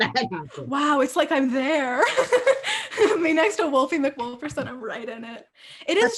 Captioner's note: laughter